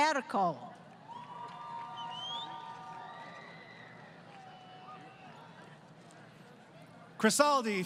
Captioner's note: crowd Cheering